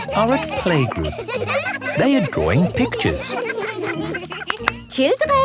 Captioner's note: laughter